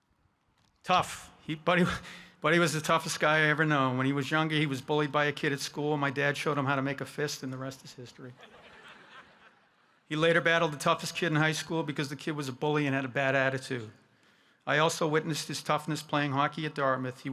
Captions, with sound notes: Tough. Buddy was the toughest guy I ever know, when he was younger, he was bullied by a kid at school, and my dad showed him how to make a fist, and the rest is history. (audience laughing) He later battled the toughest kid in high school because the kid was a bully and had a bad attitude. I also witnessed his toughness playing hockey at Dartmouth.